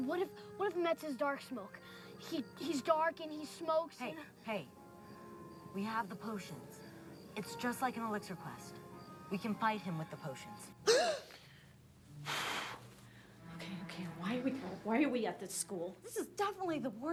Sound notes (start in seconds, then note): 9.2 exhales forcefully; 9.2 gasp